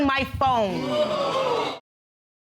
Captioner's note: audience exclaiming